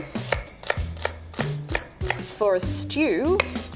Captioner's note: knife tapping against wooden board